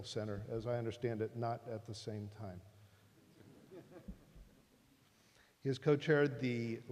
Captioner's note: laughter